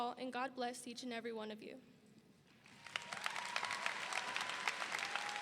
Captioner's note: audience applauding